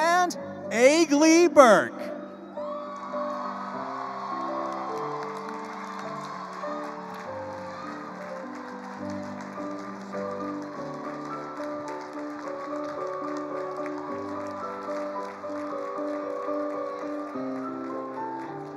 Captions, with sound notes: And Aglee Burke. (attendees cheering) (attendees applauding)